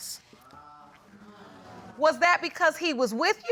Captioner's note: audience murmuring